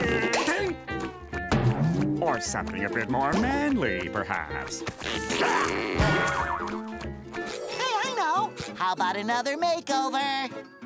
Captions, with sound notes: or something a bit more manly perhaps. [groaning] Hey, I know. How about another makeover?